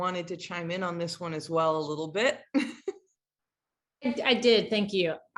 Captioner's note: laughs